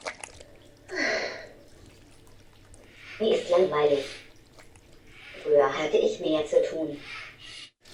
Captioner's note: sighs